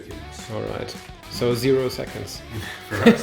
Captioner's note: laughs